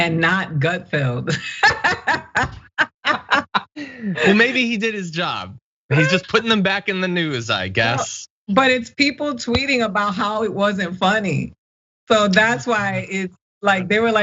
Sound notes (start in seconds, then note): 1.3 laugh